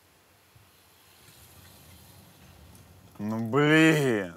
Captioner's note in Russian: тишина; шуршание, тихий треск камина